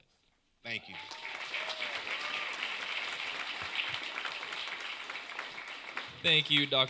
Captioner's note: applause